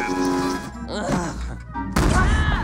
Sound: Angel groans; bomb explodes

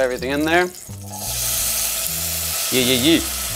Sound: pan sizzling

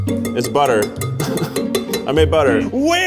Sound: laughing; laughs

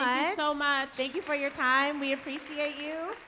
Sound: light applause

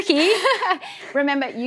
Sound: laughs

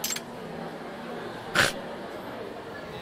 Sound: snorts

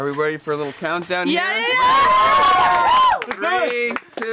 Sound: yelling

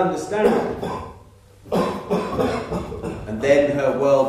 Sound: man starts coughing

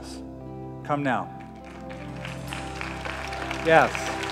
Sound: applause

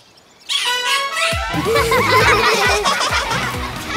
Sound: laughing

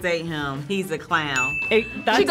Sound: bell dings

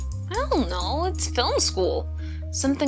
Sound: none

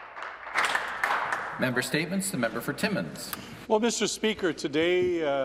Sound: some Applause

